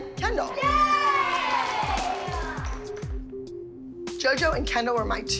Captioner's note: cheering